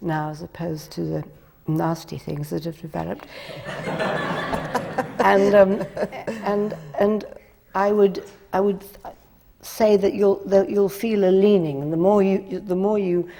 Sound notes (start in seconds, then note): 6.5 laughter